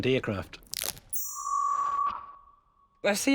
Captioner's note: warbles